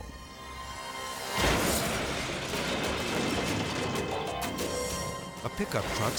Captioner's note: truck crashes; object clatters